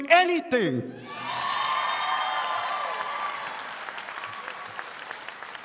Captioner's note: audience applauding